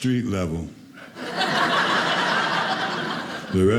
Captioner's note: audience laughing